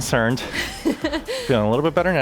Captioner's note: chuckles